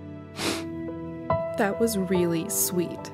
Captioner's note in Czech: posmrkávání